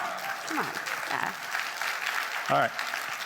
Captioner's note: attendees clapping